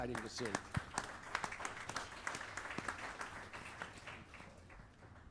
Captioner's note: audience applauding